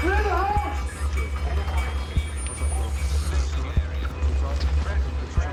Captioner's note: man announcing over speakers